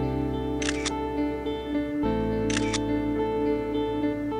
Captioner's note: Snap clicked